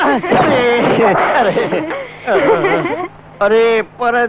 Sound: laughs

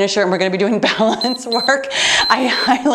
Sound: timer beeps

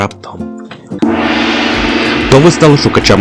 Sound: epic gong

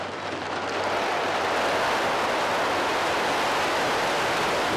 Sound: Son of Beast crashing

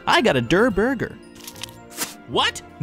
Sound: burger crunching; spits

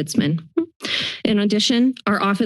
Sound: inhales

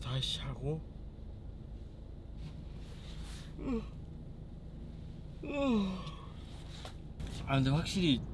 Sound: yawn~~~

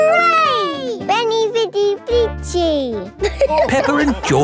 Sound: all laughing

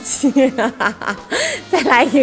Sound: hahaha

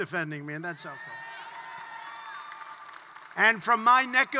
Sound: applause

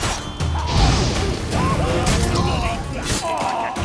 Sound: flames whoosh; scream, groan

